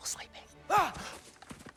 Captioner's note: scream